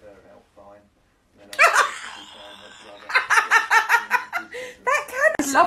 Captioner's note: wheeze